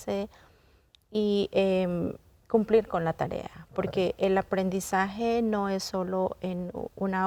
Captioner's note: continues speaking in Spanish